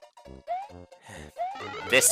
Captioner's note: sigh